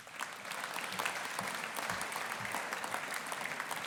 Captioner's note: audience applauding